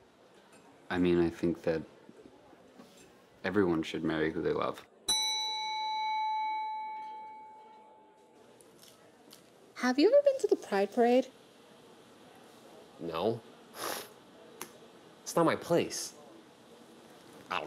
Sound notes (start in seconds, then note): 5.1 bell dinging; 14.1 scoffing